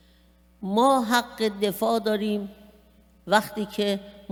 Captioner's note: speaking persian